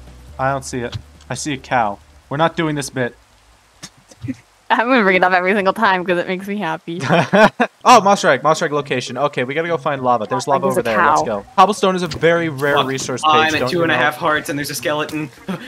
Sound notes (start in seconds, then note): 0.0 music fades out; 3.9 page snickers; 7.0 laughs